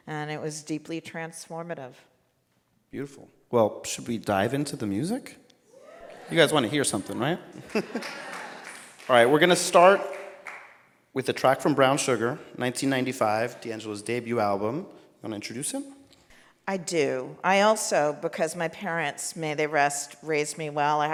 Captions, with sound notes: And it was deeply transformative. - Beautiful. Well, should we dive into the music? (audience cheering) You guys wanna hear something right? (laughs) Alright, we're gonna start with a track from "Brown Sugar" 1995, D'Angelo's debut album. You wanna introduce him? - I do. I also, because my parents may they rest raised me well.